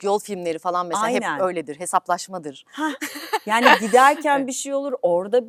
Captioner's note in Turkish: kahkaha